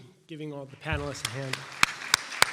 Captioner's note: applause